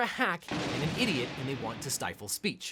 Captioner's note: loud boom